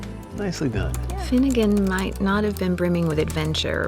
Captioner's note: typing